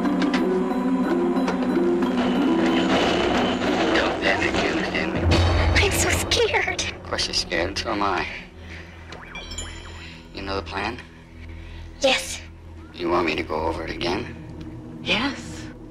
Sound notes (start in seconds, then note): 2.0 Static